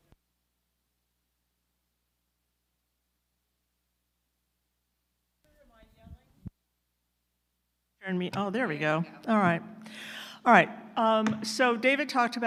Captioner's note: speaker off mic